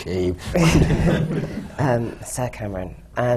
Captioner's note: laughter